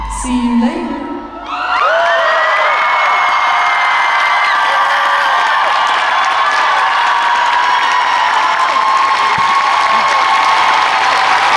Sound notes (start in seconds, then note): 2.7 audience screaming and applauding